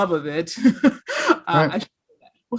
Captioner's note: laughs